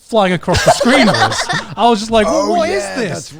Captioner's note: everyone laughing